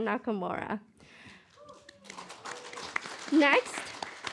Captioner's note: applause